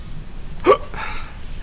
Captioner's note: hiccup